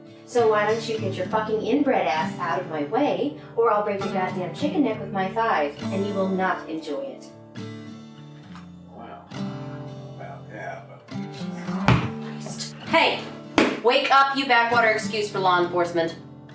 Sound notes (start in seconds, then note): 11.7 foot drops; 11.9 under her breath